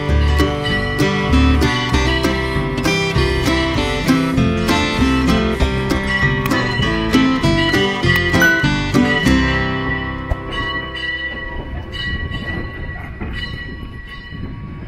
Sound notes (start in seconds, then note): 6.7 click; 10.5 bell clanging